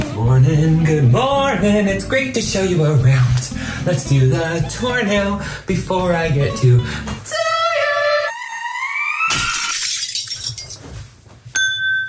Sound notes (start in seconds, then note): 9.2 glass Breaking